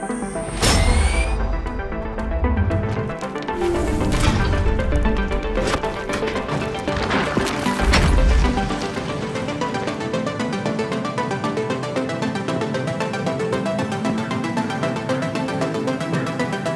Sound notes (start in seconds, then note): 0.3 metallic impact; 4.9 bending metal; 4.9 metallic ricochet; 6.4 falling rocks; 7.3 heavy slam